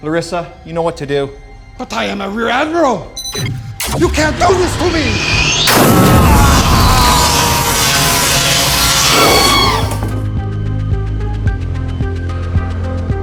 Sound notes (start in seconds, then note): 2.9 electronics beeping; 5.2 electricity buzzing; 5.6 screaming; 10.8 tense music